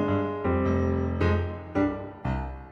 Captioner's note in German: none